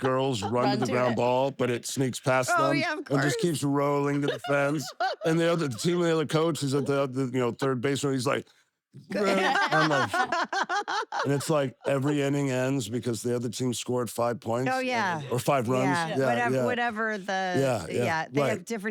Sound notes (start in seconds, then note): 9.1 laugh